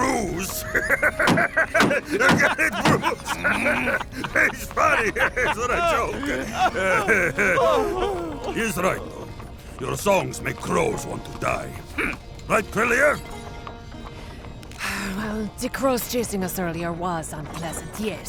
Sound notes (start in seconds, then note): 1.7 distressed pangol bard noises; 14.7 sigh